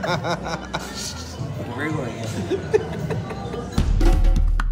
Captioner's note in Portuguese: risos